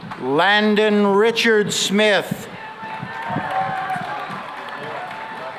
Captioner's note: cheering and applause